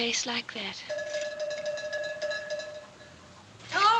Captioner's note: bell Clanging